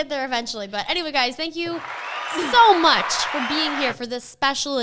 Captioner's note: crowd cheering